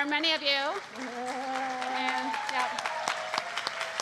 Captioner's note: applause